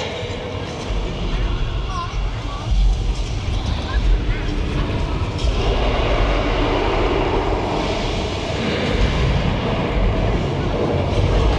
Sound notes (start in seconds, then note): 5.4 dinosaur roars